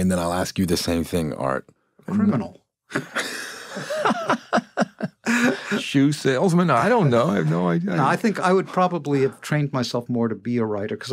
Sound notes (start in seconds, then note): 2.9 laughs